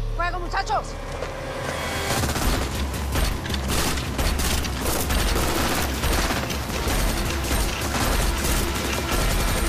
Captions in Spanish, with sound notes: Fuego, muchachos. [Disparos]